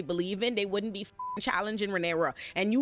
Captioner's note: beep